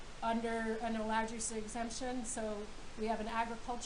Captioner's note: none